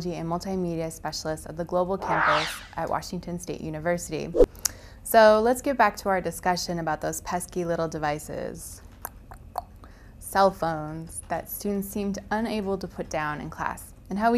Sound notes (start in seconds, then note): 9.3 tongue clicking